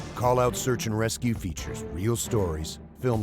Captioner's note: voiceover